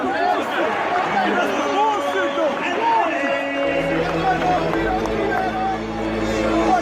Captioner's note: fan heckles continue